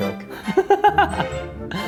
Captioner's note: laughing; light music